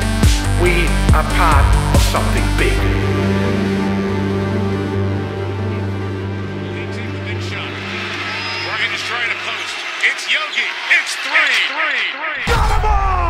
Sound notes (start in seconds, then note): 6.6 crowd